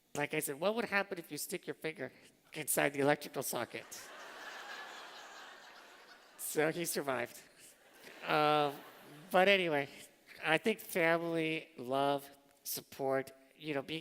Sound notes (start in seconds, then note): 3.8 laughter; 7.6 laughter